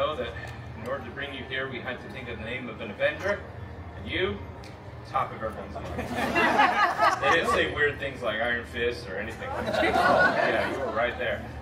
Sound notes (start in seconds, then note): 5.8 guests laughing